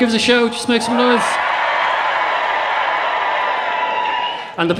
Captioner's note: cheering